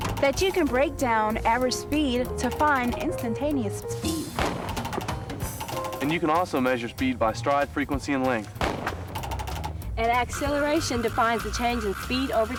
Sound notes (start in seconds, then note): 4.2 gun fires; 8.6 gun fires